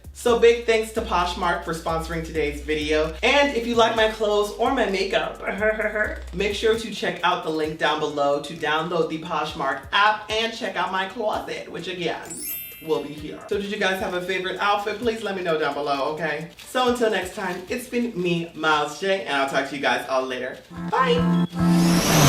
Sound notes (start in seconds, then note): 5.4 guttural laugh